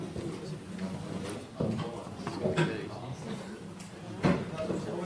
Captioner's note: quiet conversation